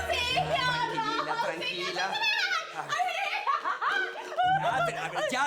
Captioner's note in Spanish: Gritos y exclamaciones